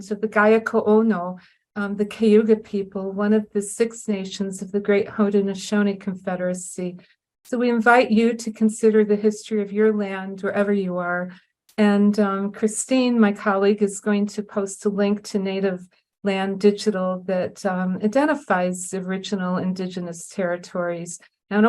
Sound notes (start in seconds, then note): none